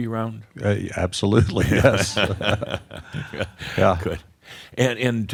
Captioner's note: they chuckle